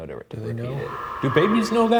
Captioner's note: person breathing